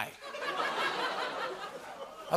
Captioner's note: laughter